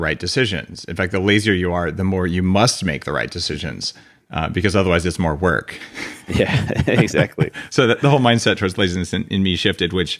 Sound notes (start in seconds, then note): 5.8 laughs